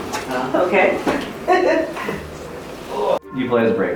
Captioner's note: laughs